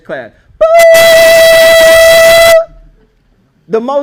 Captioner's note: loud beeping sound